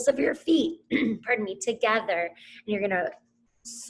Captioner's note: clears throat